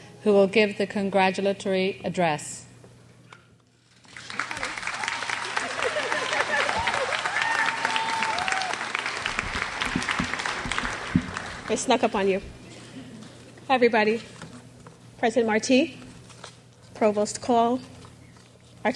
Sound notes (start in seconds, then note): 3.9 crowd applauds; 6.8 laughing